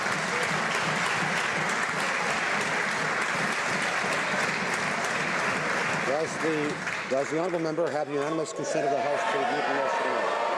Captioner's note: some Applause